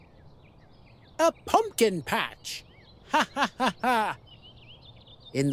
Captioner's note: laughing